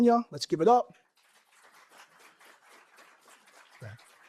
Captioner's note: applause